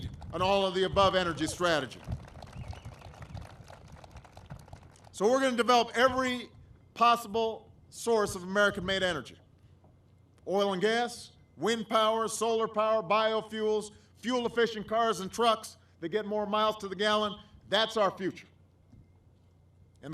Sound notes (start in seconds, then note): 5.0 applause